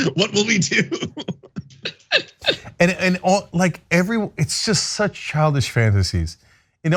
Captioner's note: laugh